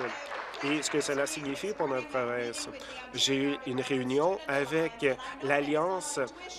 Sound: applause

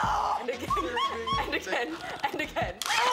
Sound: screams; laughs; screams

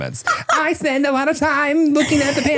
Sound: laughs

